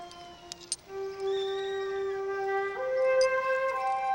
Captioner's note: coins clanking; gentle music